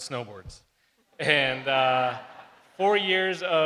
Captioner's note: crowd laughs